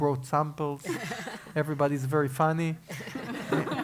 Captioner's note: laugh; laugh